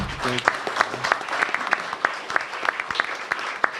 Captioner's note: applause